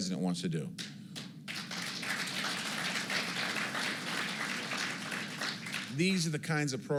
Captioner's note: applause